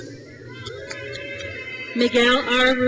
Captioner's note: crowd cheers